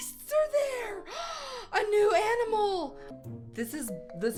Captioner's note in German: nicht-englische rede